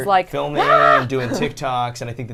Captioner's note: screeching